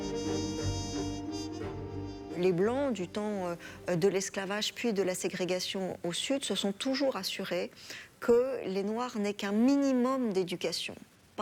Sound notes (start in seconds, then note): 2.2 French